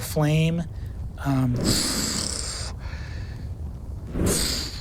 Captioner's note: imitates fire crackling